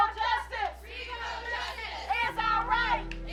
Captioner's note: crowd